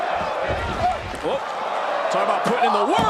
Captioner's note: crowd cheers